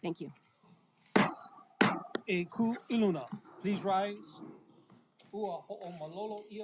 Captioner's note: gavel bangs twice